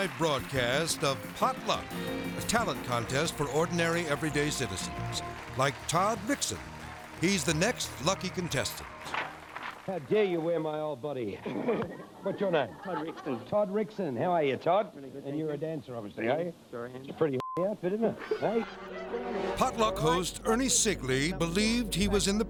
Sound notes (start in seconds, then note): 0.0 upbeat music; 11.4 laughs; 18.1 all laugh; 18.6 beep